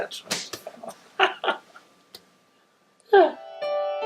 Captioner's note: laughs